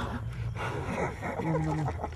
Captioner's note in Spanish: risa